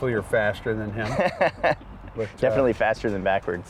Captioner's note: laughing